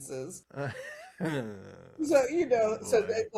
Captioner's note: laughs